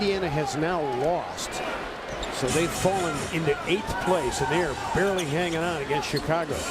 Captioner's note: crowd noise